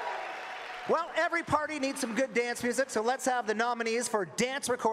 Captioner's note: cheering and Applause